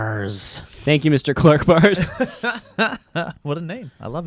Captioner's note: laughs